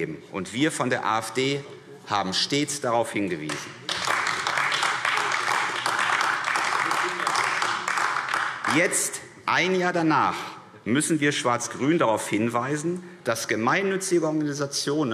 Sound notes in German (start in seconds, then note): 3.4 Beifall AfD